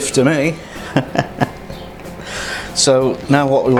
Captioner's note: laughs